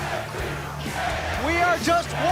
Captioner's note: fans chanting